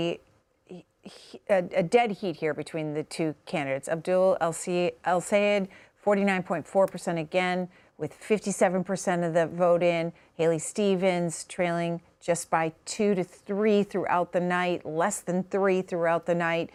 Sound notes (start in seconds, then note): none